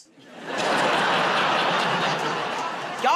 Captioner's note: laughter